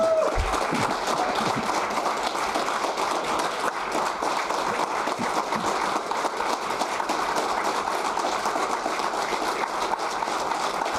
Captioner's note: applause